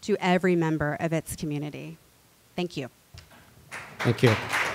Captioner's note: applause